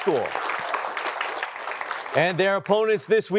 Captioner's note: applause